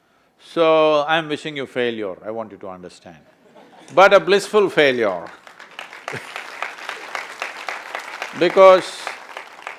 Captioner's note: applause